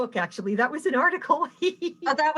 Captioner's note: laughing